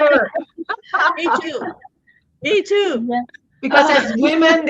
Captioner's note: laughing